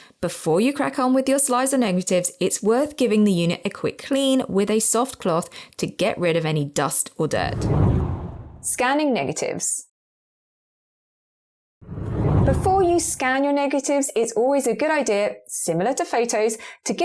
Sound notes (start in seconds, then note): 7.4 video effect whooshes; 11.8 video effect whooshes